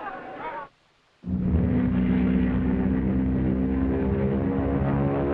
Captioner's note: plane droning